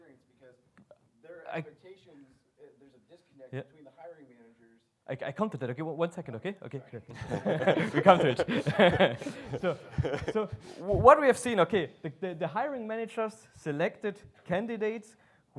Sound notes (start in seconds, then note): 7.1 laughs